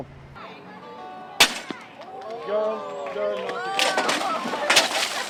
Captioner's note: banging sound; splash and laughing